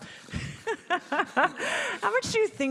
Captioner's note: laughing